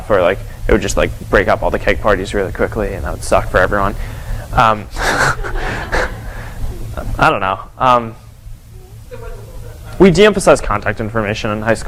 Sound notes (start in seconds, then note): 4.9 chuckles